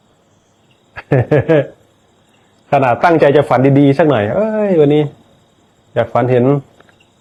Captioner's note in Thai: เสียงหัวเราะ